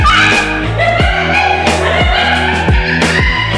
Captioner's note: Mooshie's laughing hysterically